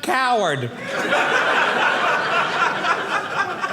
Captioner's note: audience laughing